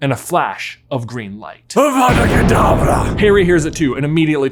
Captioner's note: thunderbolt bursts